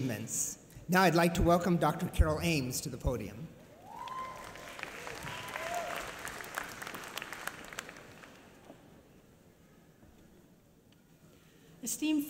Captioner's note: applause